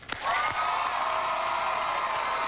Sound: cheers and applause

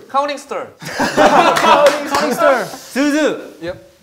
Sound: haha

